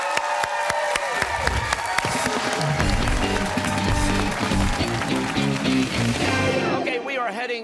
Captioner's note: cheers and applause